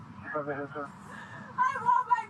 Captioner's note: radio chatter